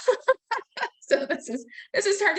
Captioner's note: laughing